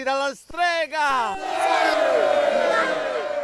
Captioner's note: crowd shouting